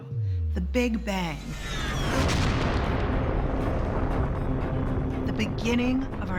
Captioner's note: explosion roars